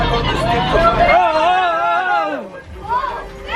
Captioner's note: people shouting